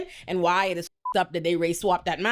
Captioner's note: beep